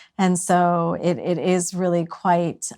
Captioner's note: none